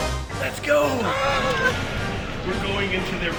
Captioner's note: excited fanboying